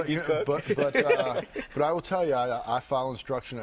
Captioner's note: laughter